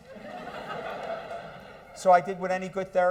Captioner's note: laughter